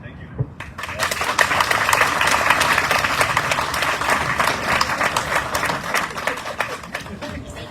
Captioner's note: audience cheering, applauding